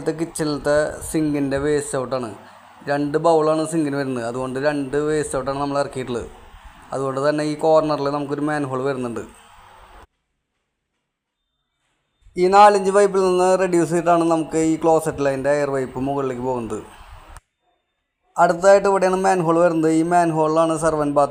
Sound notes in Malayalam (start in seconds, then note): 10.2 കരഘോഷം